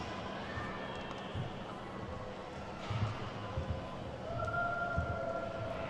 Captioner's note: attendees chattering